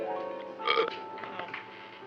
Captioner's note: burp